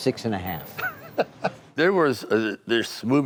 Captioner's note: Sylvester laughing